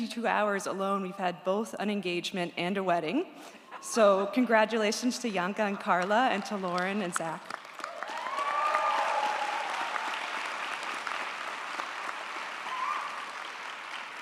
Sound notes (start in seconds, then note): 7.4 audience applauds & cheers